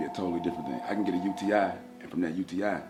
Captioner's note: phone rings